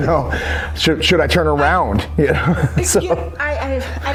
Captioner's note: laughing; laughing